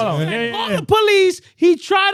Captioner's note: speaking In Foreign Language